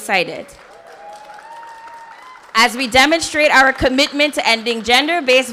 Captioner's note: audience cheers and applause